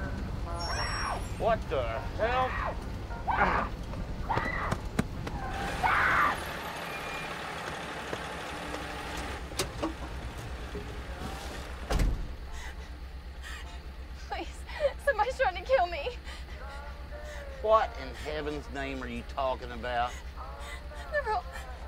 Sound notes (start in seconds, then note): 3.5 woman shouting; 13.3 breathing raggedly